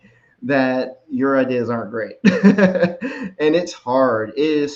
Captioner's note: laughs